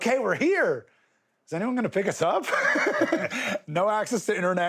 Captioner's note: laughs